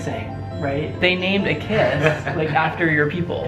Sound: laughs

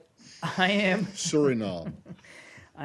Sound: laughter

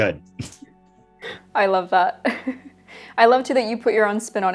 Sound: laughs

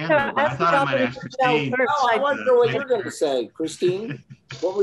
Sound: all chattering

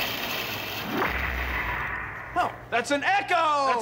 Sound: crashing echoes; echoing

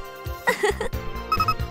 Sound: giggle

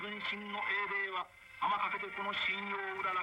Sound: japanese dialogue

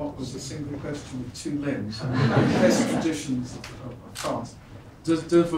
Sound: speaks French

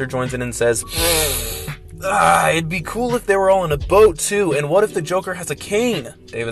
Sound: snorts coke

